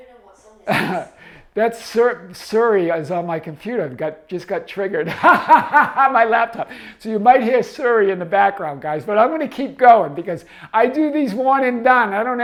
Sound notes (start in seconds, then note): 1.8 chuckles; 5.0 laughing